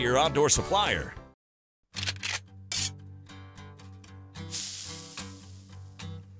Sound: sizzle; gun cocks

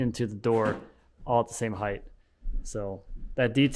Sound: door thumping

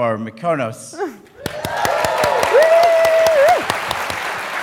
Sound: applause

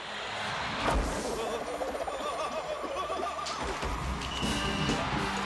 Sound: stammering; whistle Blows, Siren Blares, Crowd Cheering

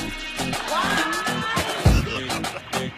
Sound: energetic dance beat; screaming; laughing

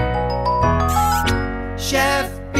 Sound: lively music playing; kiss sound

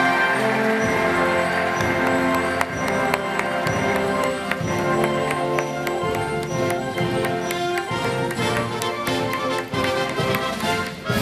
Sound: applause

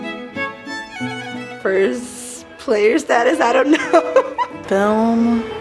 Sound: laughs

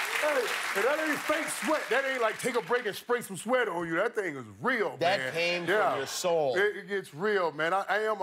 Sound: cheers and applause

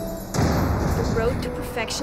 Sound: metal clanging

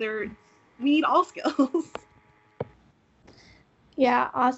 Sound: laughing

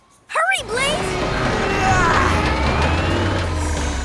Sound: grunting

